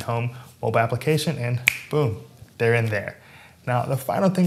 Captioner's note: snaps fingers